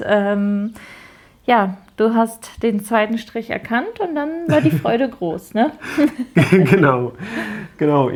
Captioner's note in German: gelächter